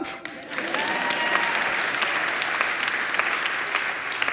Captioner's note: audience applauds